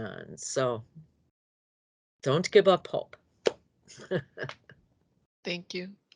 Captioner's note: laughs